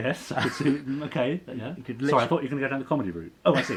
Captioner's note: laughs